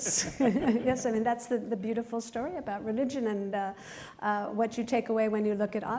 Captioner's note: laughter